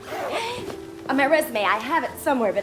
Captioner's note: giggles